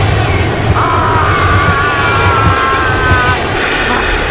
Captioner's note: Stealth screaming